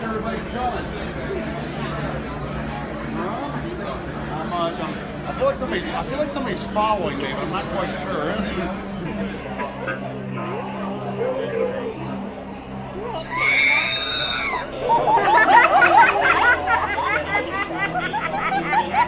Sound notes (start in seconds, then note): 8.6 crowd chattering; 13.3 R2D2 screaming; 14.8 laughter